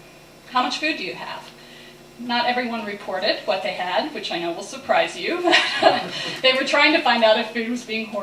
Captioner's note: laughter